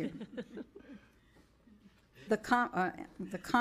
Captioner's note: members laughing